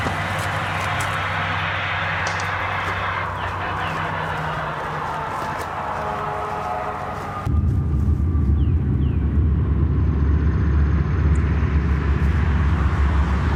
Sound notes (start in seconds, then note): 3.4 birds chirping; 7.4 ominous music